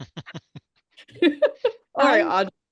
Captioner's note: teachers laughing